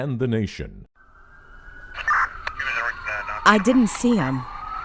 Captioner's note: sirens blaring